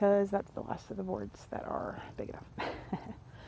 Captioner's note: laughing